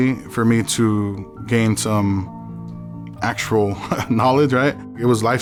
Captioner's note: chuckles